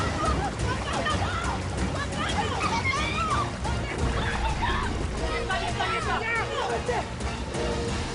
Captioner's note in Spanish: Gritos y exclamaciones